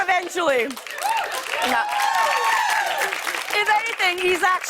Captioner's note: cheers and applause